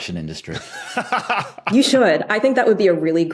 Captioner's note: laughs heartily